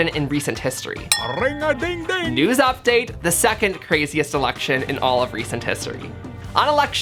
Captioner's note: ding from phone and I look at it